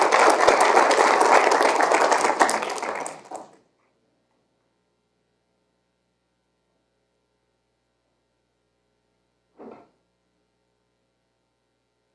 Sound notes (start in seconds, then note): 0.0 applause